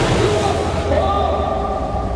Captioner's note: exclaiming